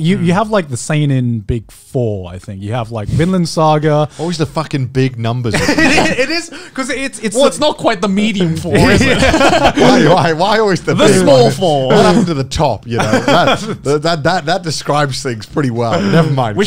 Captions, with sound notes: You, you have like the sane* in big four. I think you have like, Binland* saga - Always the fucking big numbers. (laughing) It is cause it's not quite the medium for it. (laughing) - Why, why why always the big one? - The small four! - What happened to the top? (laughing) That, that describes things pretty well.